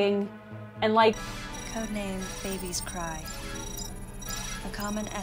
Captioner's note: an extremely flat, robotic voice from Metroid Other M